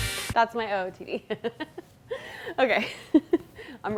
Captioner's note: laughs